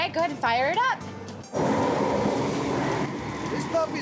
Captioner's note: whooshing sound